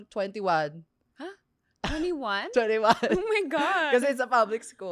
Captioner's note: laughs